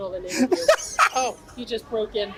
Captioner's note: laughs